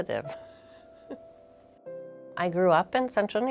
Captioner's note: chuckles